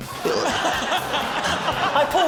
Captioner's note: laughter